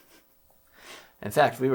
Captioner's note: laughs